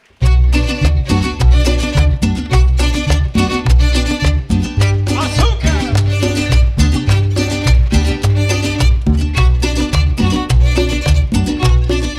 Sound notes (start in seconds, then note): 4.9 speaking in Spanish; 6.2 salsa Music